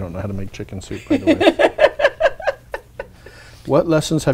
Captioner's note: laughing